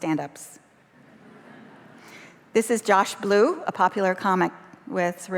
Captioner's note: laughter